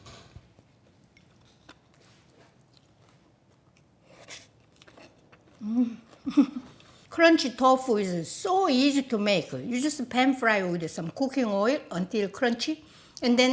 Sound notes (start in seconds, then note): 6.1 laughs